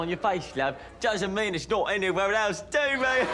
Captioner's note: chuckles; audience laughs